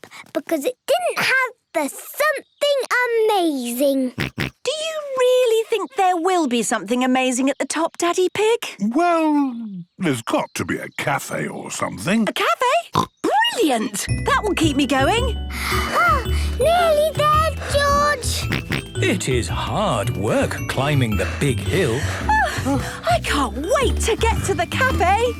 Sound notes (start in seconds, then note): 4.1 snorts; 12.9 snorts; 17.2 panting; 17.2 snorts